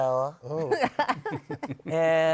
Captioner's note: laughter